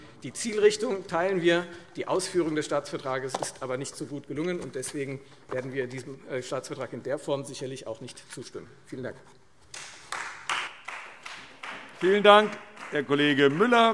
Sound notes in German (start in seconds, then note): 9.7 Beifall Freie Demokraten